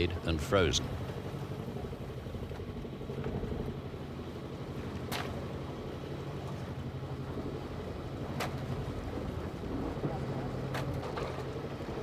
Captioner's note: boat motor hums